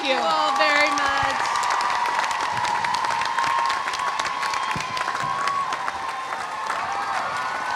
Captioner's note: audience applauding; audience cheering